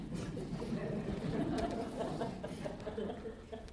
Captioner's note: laughter